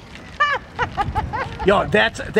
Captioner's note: laughter